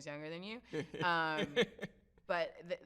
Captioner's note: laughs